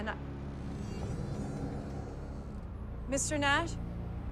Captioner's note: eerie music; door creaks